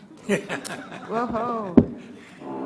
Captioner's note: laughter